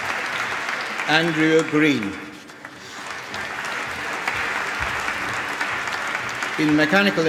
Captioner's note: applause